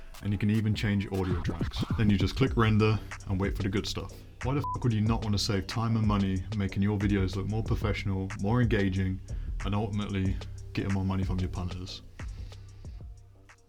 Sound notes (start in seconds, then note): 4.6 beep